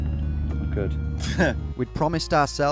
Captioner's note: laughing